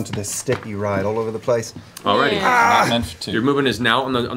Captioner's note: groans